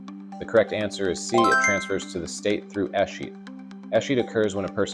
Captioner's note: bell dings